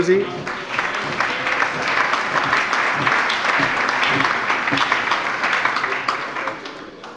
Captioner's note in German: Allgemeiner Beifall